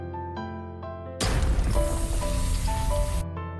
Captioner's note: snap